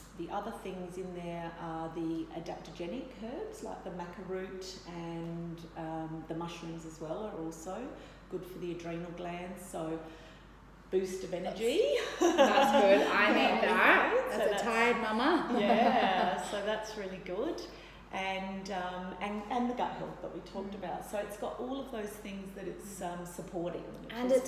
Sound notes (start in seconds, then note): 12.2 laughs